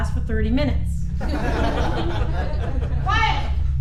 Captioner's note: whole classroom laughing